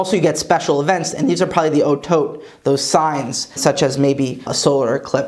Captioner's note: Hebrew